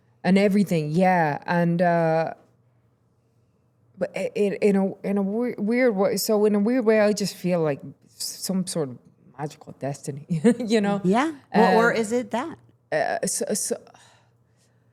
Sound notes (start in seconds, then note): 4.1 stammering; 10.2 laughing